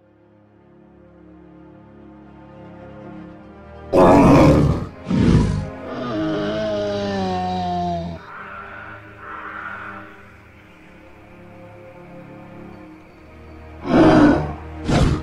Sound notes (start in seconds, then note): 1.1 gentle music; 3.9 triceratops growling/moaning; 11.1 forest bird sounds; 13.8 triceratops growling